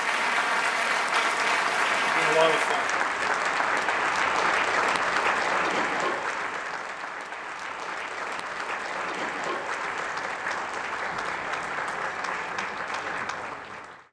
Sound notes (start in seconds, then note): 0.1 audience applauding; 3.6 audience continuing to applaud